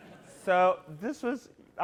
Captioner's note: laughter